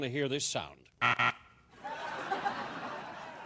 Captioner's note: buzzer